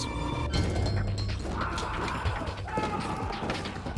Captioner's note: yelling